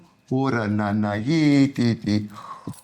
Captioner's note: non-english speech